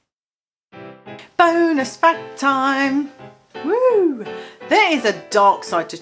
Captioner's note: wooh